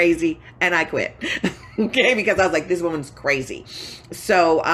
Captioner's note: laughing